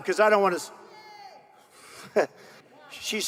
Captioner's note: woman shouting